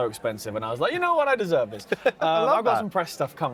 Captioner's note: laughs